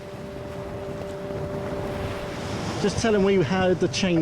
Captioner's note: boat engine revving